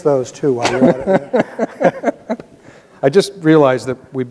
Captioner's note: both laughing